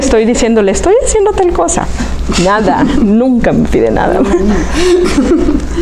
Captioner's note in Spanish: Se ríe